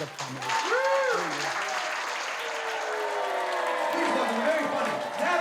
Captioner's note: crowd cheering